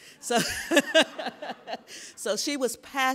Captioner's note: laughing